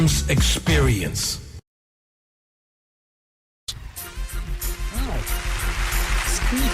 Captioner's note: applause